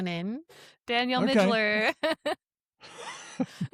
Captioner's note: laughs; chuckles